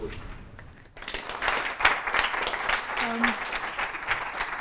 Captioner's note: applause